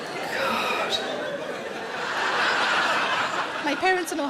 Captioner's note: audience laughing